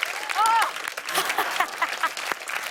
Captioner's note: laughs